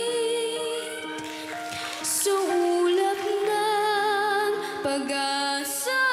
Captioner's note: cheering, applause